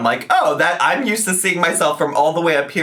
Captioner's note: none